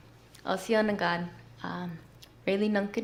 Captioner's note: non-english speech